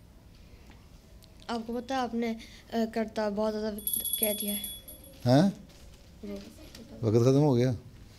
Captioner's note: bell rings